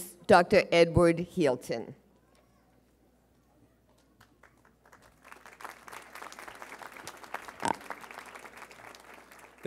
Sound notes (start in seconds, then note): 4.2 audience applauding